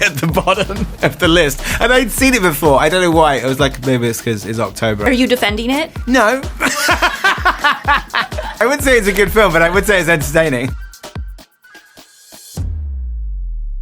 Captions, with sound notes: at the bottom of the list and I'd seen it before. I dunno why. It was, like, maybe it's 'cause it's October. - Are you defending it? - No. (laughs) I wouldn't say it's a good film, but I would say it's entertaining. (upbeat music)